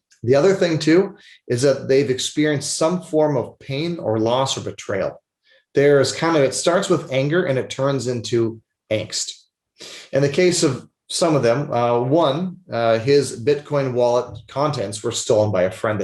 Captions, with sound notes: The other thing too, is that they've experienced some form of pain or loss or betrayal. There is kind of, it starts with anger and it turns into angst. (sniffles) In the case of some of them, one, his Bitcoin wallet contents were stolen by a friend